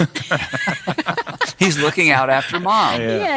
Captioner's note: laughing